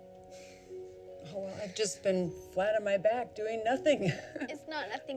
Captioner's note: laughs